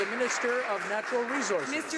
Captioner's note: some Applause